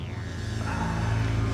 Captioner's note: Joe groaning softly